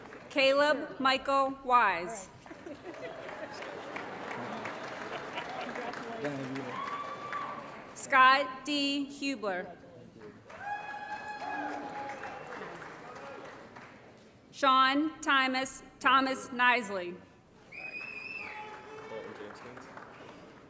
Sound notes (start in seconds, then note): 2.6 applause; 10.4 applause & Cheering; 17.8 applause